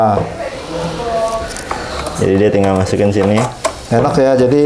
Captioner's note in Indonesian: suara kabel